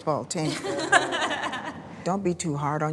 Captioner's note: team laughing